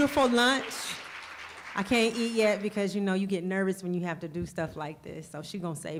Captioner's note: applause